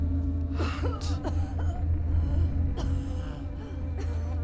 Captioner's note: woman coughing